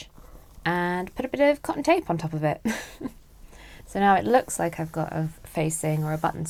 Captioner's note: chuckles